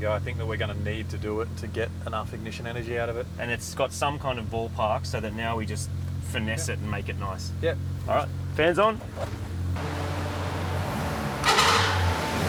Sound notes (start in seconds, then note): 9.0 engine revs; 9.8 fans running